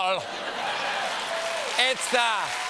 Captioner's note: laughter; applause